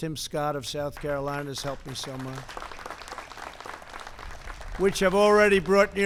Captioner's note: applause